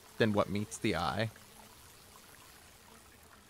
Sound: Sounds of the Grand River. Voices from the river's history follow

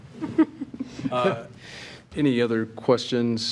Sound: trustees chuckling

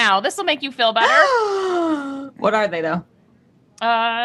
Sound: gasps

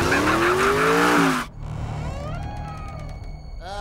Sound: laughing; door creaking

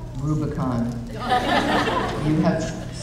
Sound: audience laughing

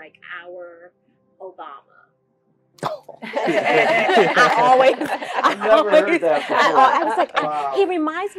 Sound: laugh

